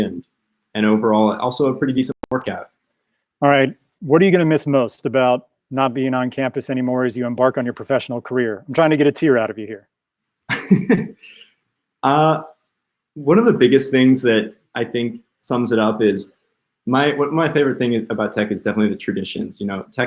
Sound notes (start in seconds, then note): 10.5 chuckles